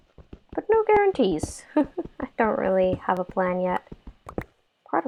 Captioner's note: laugh